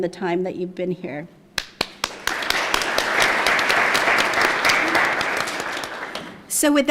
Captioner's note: applause